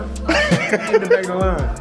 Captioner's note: laughs